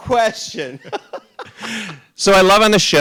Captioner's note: RuPaul laughs